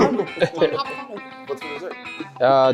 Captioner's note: everyone laughs